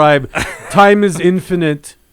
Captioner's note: laughs